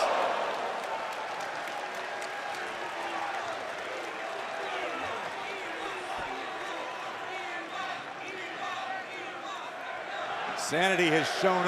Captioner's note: crowd cheering